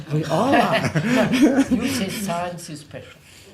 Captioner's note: laughs